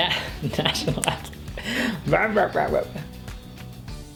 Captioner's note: laughs